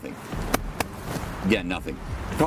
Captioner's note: manos aplaudiendo